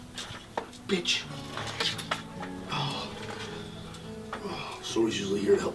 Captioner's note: breathing deeply